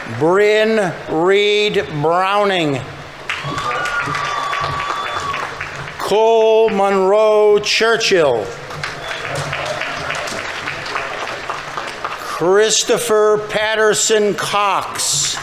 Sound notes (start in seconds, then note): 3.1 audience members cheering; 3.1 audience applauding; 8.4 audience applauding; 8.6 audience members cheering